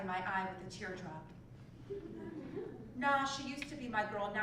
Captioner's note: laugh